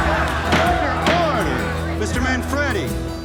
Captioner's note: crowd cheers; gavel banging